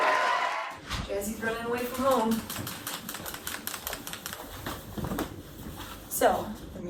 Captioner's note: raucous Applause; shaking pen